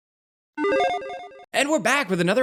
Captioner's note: video game chime beeps